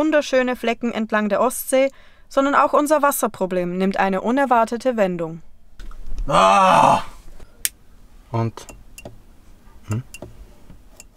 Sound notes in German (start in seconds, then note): 6.8 Klicken